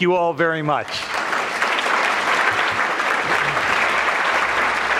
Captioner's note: audience clapping